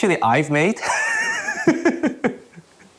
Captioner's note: laughs